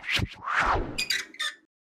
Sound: whooshing noise and hinges

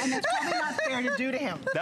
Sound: laughter

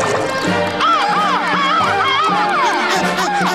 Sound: screeching; panting

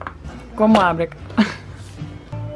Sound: chuckles

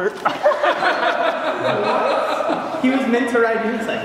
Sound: laughing

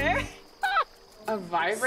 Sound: laughing

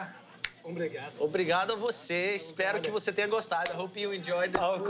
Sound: speaking Portuguese

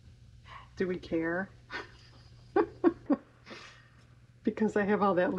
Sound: laughs

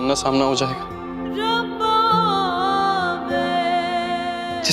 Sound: emotional vocalising

